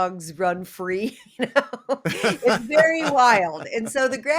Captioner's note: laughter